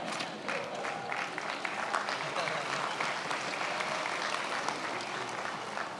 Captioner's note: attendees applauding